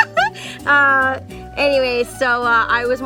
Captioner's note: laughing